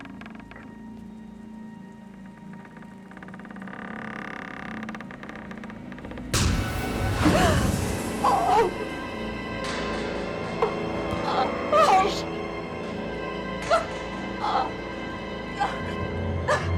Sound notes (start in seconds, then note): 0.2 door creaking; 5.8 intense, dramatic music; 13.5 sobbing